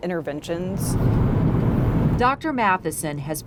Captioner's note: car engines revving; wind whooshing